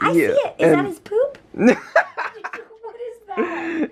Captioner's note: laughter